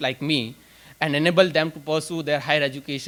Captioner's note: none